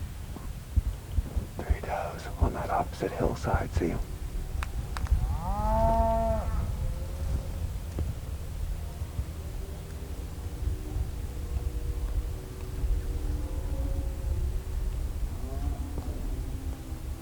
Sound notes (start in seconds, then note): 0.0 natural noises; 1.8 natural noises/cows